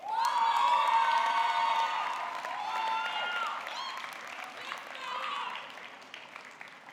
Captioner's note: audience clapping; audience cheering